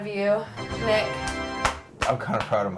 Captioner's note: achievement chime; clapping